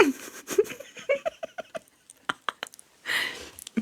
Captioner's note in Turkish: kahkaha